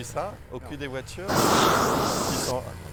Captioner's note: blowtorch noise